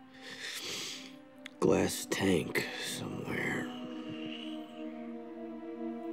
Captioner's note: sniffles